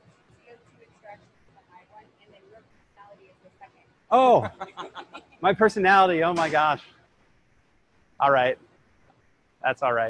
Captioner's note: laughter